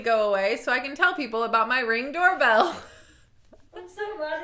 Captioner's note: laughing